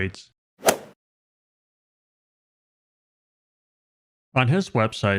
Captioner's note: golf swing sound effect